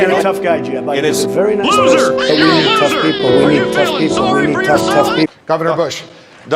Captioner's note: baby crying